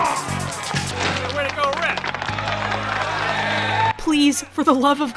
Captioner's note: crowd claps